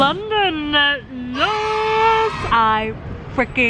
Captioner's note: cheering